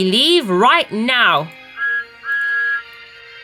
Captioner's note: Thomas's whistle blows